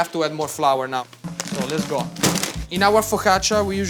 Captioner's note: paper bag thudding